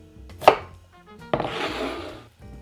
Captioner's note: knife cutting